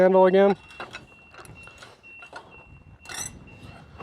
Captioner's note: beeping